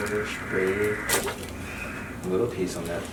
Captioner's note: bones cracking